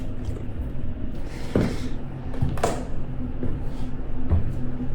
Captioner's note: footsteps stomping